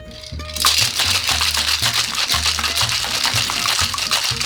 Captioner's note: ice cubes clattering